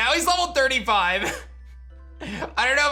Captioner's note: chuckles